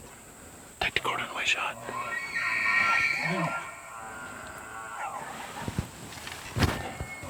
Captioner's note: whispering